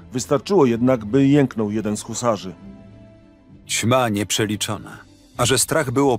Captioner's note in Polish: Lektor